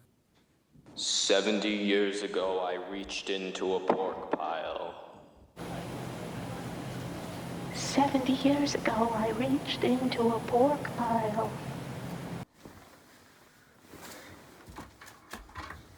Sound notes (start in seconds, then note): 7.7 high distorted voice